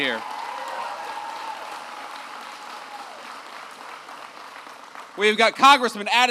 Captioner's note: applause